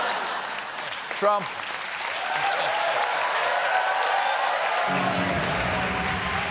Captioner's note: cheers and applause